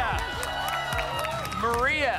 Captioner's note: applause and cheering